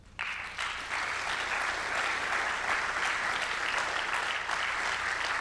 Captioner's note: audience clapping